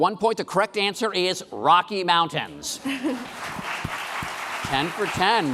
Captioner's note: applause